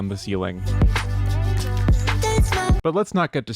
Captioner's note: thump, thump, thump